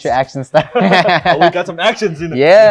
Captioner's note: laughing